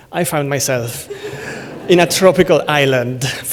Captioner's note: laughter